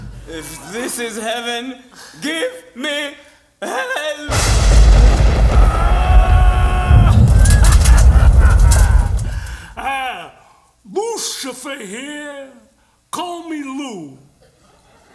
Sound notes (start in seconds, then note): 4.3 ominous sounds